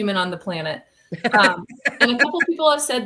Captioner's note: laughter